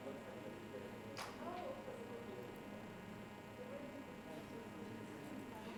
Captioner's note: people chattering